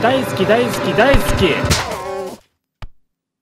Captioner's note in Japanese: 効果音